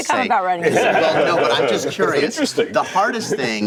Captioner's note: laughter